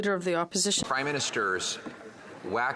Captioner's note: speaking French